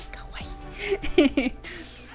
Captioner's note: laughts